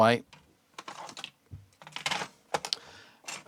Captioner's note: keyboard Clacking